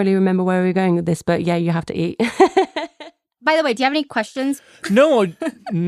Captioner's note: laughs